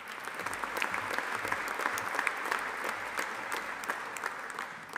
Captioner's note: audience applauding